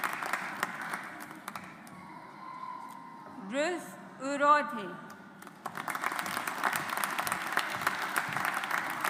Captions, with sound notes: Ruth Urodhe. (AUDIENCE APPLAUDS)